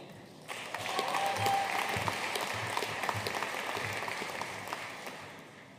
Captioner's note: audience cheering and applauding